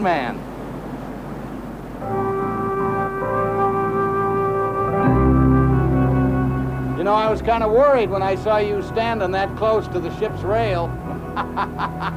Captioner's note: laughs